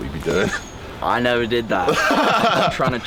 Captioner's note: Kay laughs